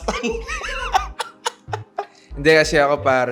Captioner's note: laughs